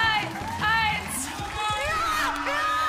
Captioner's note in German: Jubel